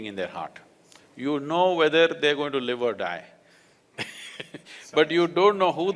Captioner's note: laughs